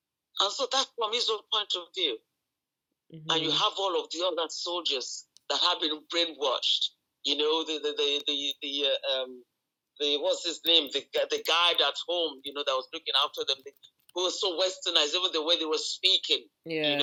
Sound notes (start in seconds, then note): 7.9 stammering